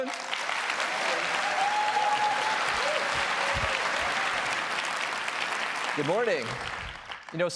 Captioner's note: applause